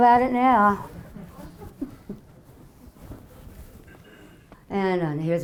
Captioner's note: audience laughing